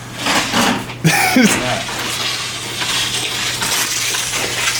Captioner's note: laughs